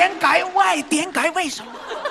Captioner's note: Cantonese